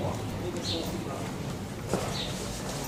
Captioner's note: external conversation in Ukrainian